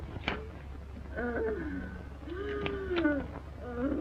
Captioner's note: groaning